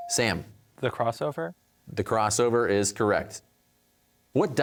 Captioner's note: none